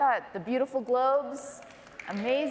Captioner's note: applause